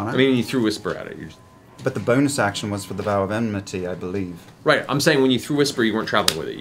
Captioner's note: none